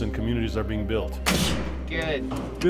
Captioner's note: nail gun blast